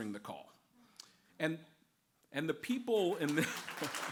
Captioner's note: applause